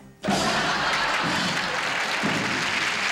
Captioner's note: laughter